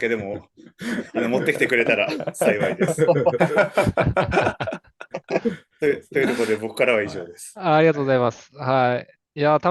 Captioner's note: laughter